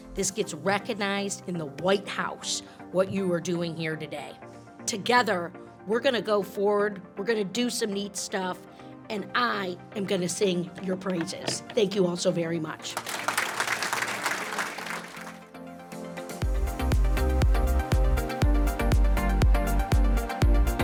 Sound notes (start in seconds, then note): 12.9 audience applauding; 16.3 light electronic music continues